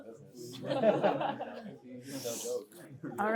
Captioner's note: laughter